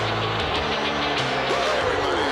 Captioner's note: crowd booing